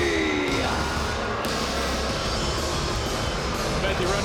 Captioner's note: crowd boos; upbeat music